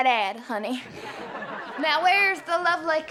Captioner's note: laughter